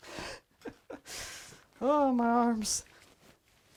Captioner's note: chuckles